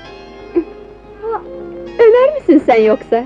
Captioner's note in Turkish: Öksürükler